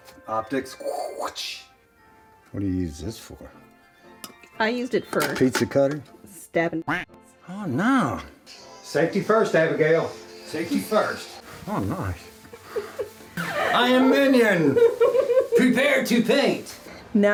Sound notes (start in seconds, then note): 7.1 duck quack; 12.5 chuckles